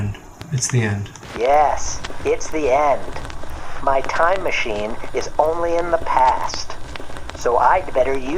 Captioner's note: scratchy robot voice